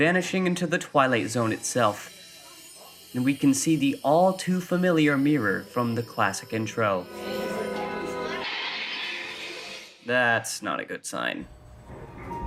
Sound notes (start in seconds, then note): 8.4 window breaks